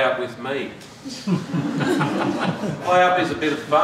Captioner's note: laughter